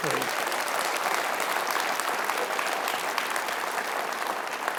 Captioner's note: audience applauding